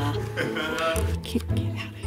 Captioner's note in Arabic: موسيقى سخيفة; يضحك